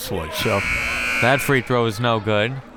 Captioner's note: buzzer ringing